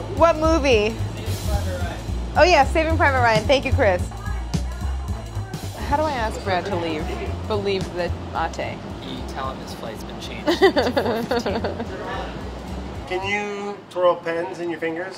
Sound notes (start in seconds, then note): 10.4 laughing